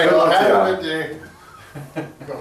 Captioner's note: laughing